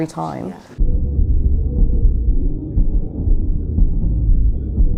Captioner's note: muffled rumbling